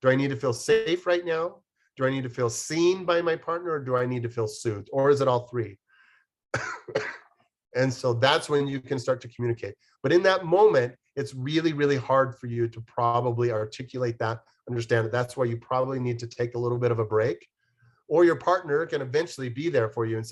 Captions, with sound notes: Do I need to feel safe right now, do I need to feel seen by my partner, or do I need to feel soothed, or is it all three? [COUGHS] And so that's when you can start to communicate. But in that moment, it's really, really hard for you to probably articulate that, understand that. That's why you probably need to take a little bit of a break. Or your partner can eventually be there for you